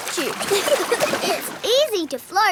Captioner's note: giggling